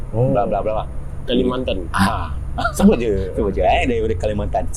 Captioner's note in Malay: ketawa